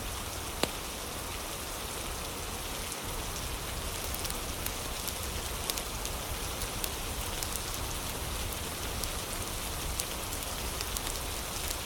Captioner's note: fire crackling